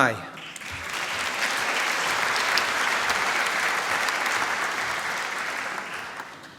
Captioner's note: applause